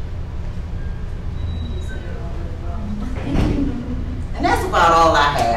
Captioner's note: responds quietly